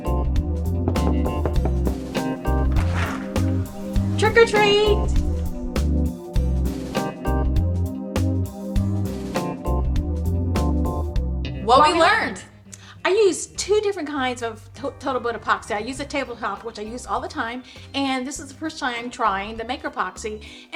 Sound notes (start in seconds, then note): 1.0 fist thudding